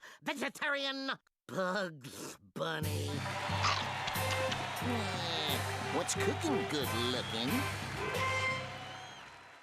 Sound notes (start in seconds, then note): 3.2 audience roaring